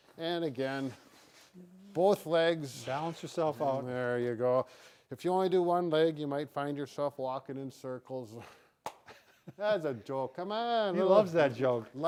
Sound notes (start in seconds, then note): 9.1 chuckles